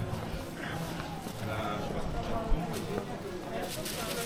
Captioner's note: people chattering